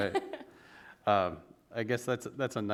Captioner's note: laughs